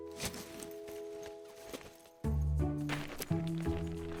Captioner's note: tent thudding